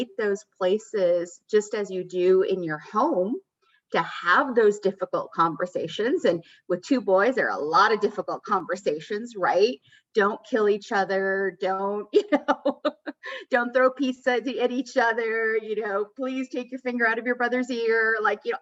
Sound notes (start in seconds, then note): 12.2 laughter